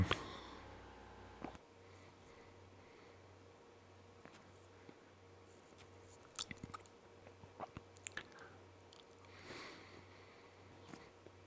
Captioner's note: silence